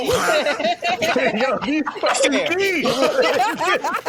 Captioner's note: laughing